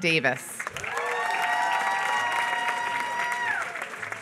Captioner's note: applause